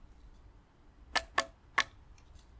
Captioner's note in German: Klopfen auf harten Grund